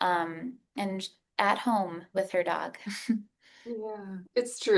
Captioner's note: giggles